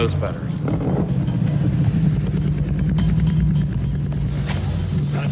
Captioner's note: engine rumbling